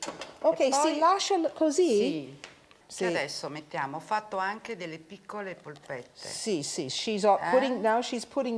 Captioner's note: speaking Italian